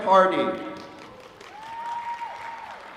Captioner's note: applause